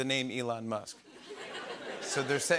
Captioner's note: laughter